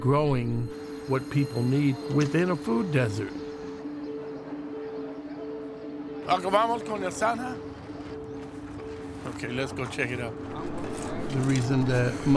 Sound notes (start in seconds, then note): 7.4 speaks Spanish